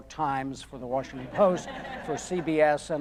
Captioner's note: audience laughing